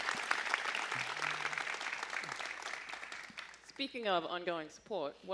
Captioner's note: applause